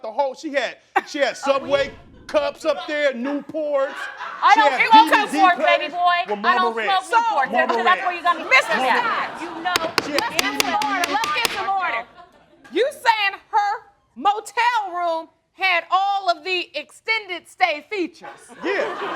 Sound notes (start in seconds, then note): 9.7 banging gavel; 10.4 both yelling over each other